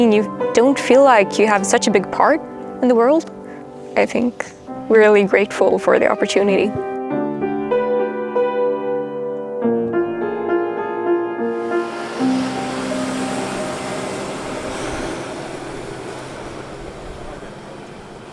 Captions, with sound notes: you don't feel like you have such a big part in the world. I think we're really grateful for the opportunity. (gentle piano music) (truck whirs)